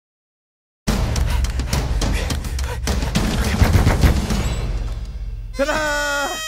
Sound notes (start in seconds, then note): 1.0 heavy panting; 3.2 knocks on door loudly